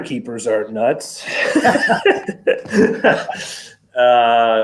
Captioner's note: laughs